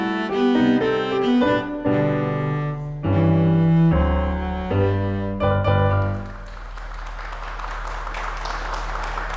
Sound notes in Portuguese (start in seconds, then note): 5.9 aplausos